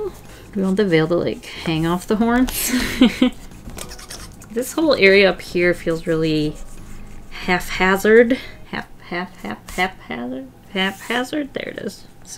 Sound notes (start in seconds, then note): 2.6 laughs; 3.8 mouth kisses